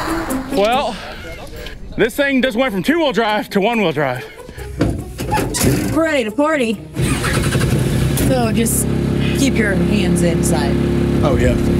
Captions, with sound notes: - Well this thing just went from two wheel drive to one wheel drive. (door closes) - We're ready to party. (engine starts) So just keep your hands inside. - Oh yeah.